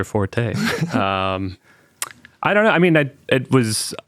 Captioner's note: participants laughing